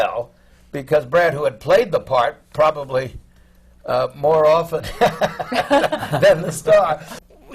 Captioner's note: laughter